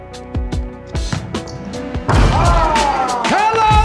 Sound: ball bouncing; ball dunking

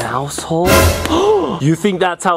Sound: jump scare sound; gasp

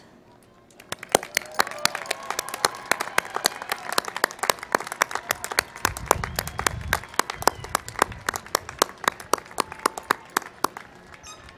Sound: applause and Cheering

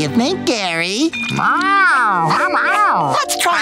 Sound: meowing

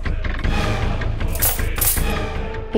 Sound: coins clinking

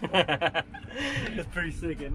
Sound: laughs

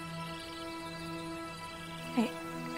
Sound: insects chirping

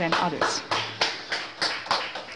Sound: applause

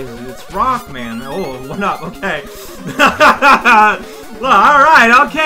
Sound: laughs

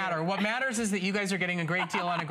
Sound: laughter

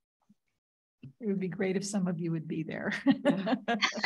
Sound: laughs

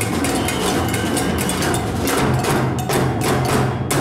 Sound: whistle blows

